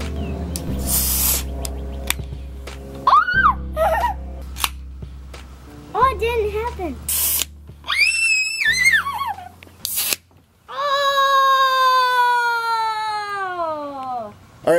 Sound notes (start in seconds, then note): 0.2 screams and laughs; 1.0 can fizzing; 4.6 can clicks; 7.0 can fizzing; 7.8 screams and laughs; 8.6 moans; 9.8 can fizzing